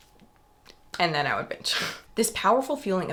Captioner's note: exhales